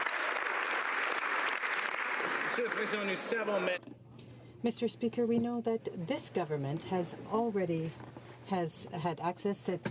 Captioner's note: applause